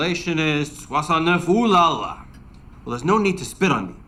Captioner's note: speaking in foreign language